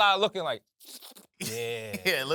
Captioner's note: slurps; laughs